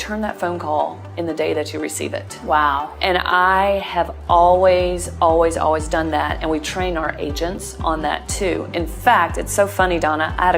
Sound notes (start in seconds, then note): none